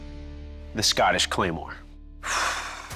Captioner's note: sighs